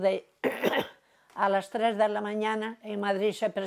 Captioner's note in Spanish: Carraspea